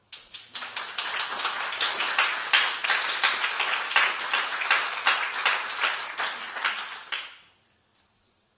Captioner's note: applause